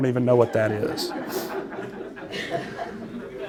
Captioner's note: laughter